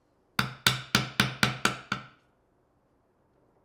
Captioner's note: woods smacking